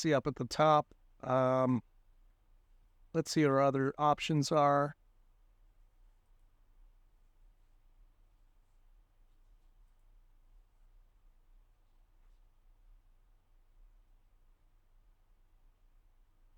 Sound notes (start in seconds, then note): 9.8 silence